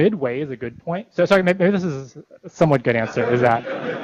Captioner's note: laughter